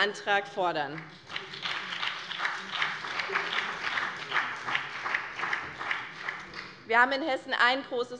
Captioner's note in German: Beifall BÜNDNIS 90/DIE GRÜNEN